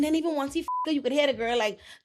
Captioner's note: beep